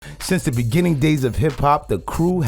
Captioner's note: voiceover